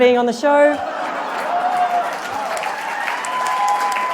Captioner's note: applause